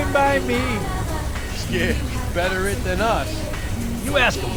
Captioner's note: small Chuckle